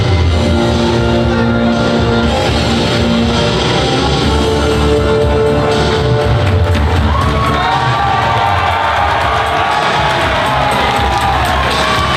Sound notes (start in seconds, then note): 6.3 crowd cheering